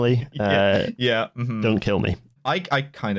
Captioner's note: laughs